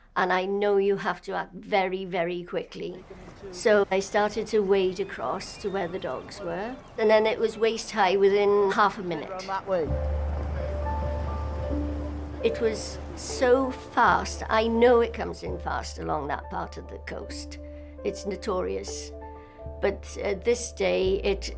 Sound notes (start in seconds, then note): 10.5 pensive music; 10.5 water trickles